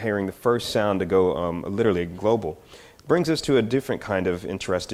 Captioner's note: none